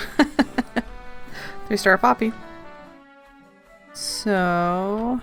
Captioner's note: laughs